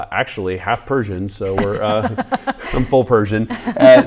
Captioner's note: laughing